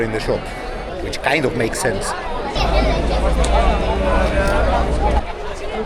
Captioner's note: Crowd Noise